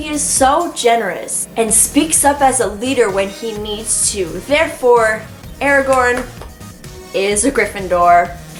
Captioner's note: claps